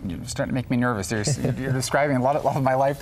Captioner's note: chuckling